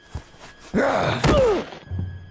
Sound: loud thud

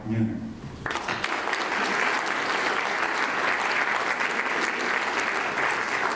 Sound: applause

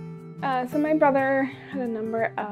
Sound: sighs

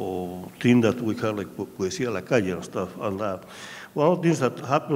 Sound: speaking in a foreign language

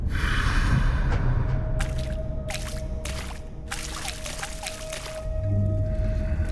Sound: dripping

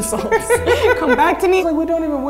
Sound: laughing

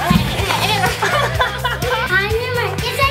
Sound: laughter

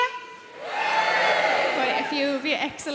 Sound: women cheering

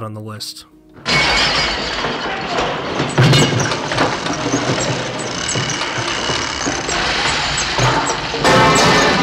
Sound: glass breaking and debris crashing

